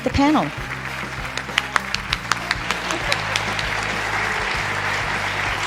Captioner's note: applause